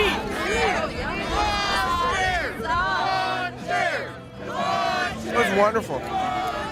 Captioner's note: crowd chanting in unison